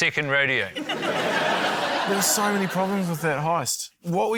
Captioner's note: laughter